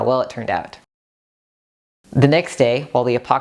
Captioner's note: silence while you groan